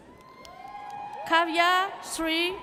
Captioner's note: audience cheers